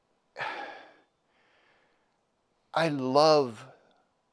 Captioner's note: sighs